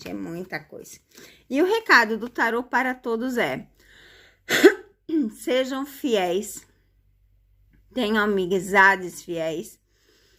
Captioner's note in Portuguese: limpando a garganta